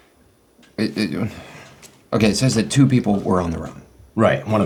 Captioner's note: grunts